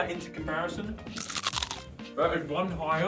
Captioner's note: crunch